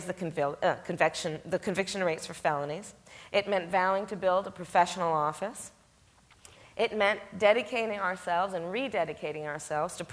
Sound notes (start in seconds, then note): none